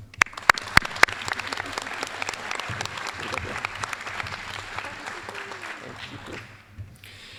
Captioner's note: applause